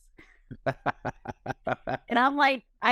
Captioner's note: laughs